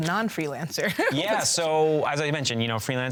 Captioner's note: laughs